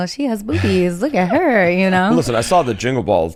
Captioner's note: laughs